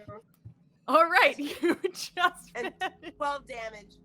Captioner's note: laughing